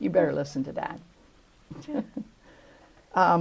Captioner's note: laughter